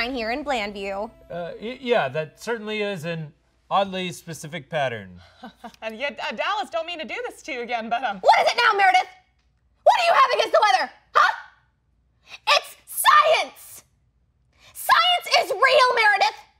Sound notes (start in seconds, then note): 5.6 laughs